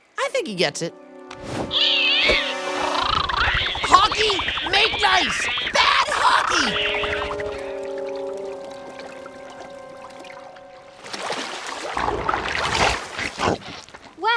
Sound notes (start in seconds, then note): 1.7 Momo yowls; 1.8 hawk chittering; 6.5 yowling; 8.0 water bubbling; 11.0 water splashes; 12.0 Appa grunts